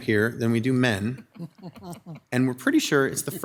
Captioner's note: women chuckling